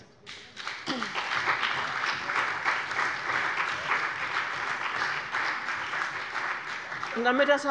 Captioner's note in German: Beifall bei dem BÜNDNIS 90/DIE GRÜNEN und der CDU